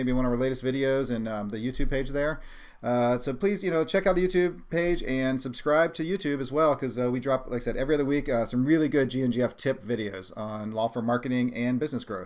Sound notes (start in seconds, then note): none